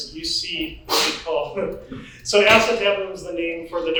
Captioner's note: laughs